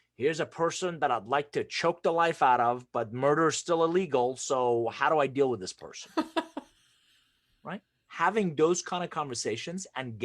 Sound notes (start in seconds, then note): 6.1 laughs